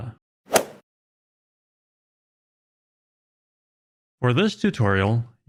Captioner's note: golf swing sound effect